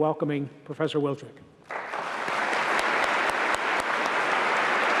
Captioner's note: applause